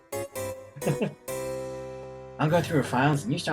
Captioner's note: chuckles